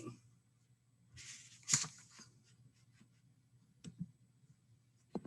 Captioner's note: paper rustles